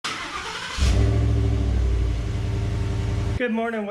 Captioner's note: truck rumbling